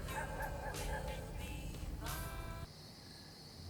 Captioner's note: dogs barking